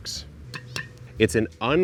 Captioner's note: pot clanks